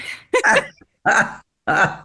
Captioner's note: laughing